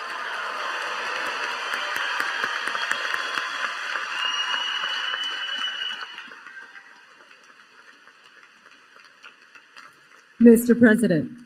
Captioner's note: applause